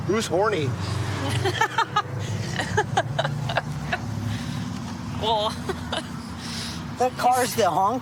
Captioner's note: laughing